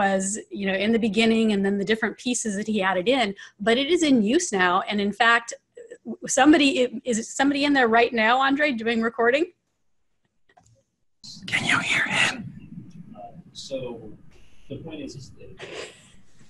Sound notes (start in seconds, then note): 11.3 whispers